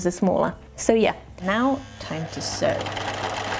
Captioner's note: machine noises